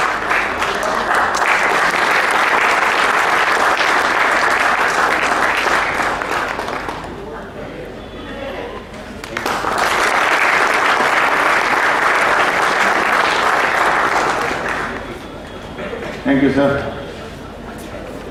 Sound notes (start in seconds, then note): 9.1 applause